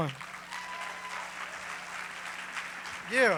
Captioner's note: applause